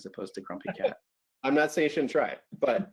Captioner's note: laughs